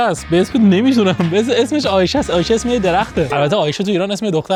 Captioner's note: speaking German